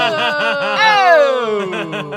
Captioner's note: laughs